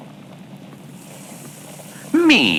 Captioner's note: turns on sink faucet fx